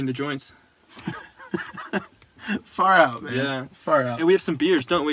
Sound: laughs

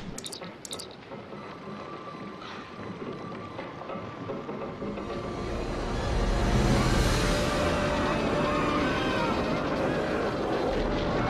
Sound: shouting and screaming

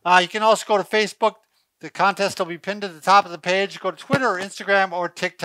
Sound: none

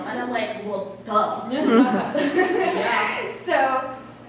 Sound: laughter

